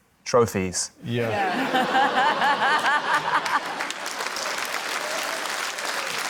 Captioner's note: laughs; laughter, applause